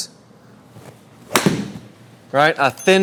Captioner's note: whacking sound